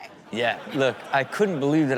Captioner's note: crowd laughs